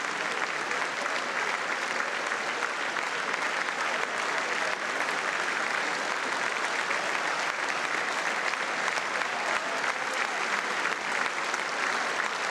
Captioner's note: applause